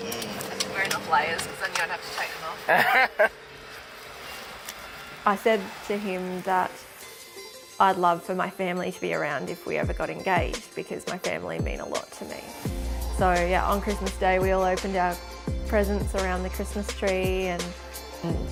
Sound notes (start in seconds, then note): 2.6 man laughing